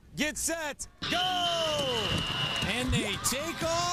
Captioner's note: whistle blows